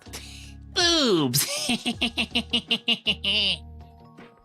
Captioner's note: laughs